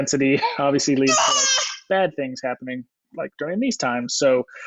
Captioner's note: screams